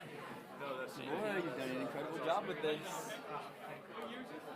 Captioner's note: audience speaking indistinctly